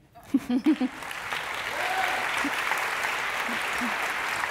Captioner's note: audience applauds